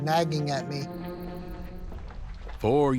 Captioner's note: footsteps